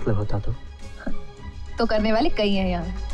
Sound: chuckles

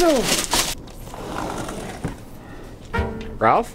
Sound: door opens

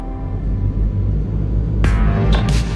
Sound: airplane Noise

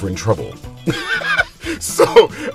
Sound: laughing

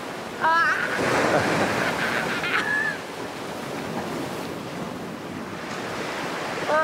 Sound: waves crashing

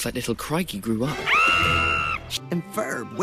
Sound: screaming

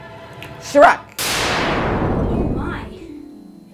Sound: loud magical noise

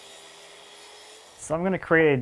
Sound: saw whirring

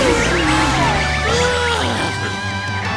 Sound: moaning

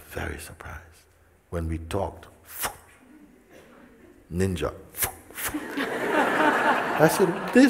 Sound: smijeh

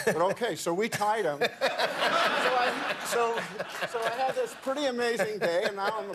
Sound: laughter

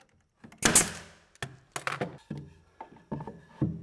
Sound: nailer snaps

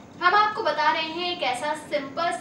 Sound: hindi

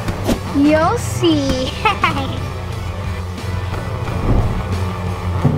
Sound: evil laughing

